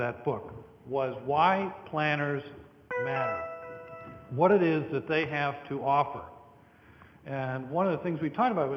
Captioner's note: computer tone